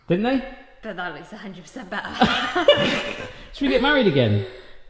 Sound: laughing

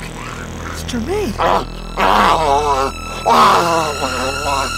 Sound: Jermaine growls

